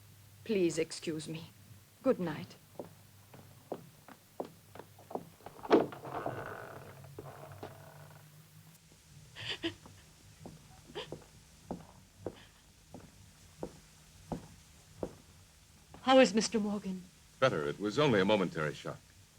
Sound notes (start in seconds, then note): 4.8 door opens; 10.9 Corinne sobbing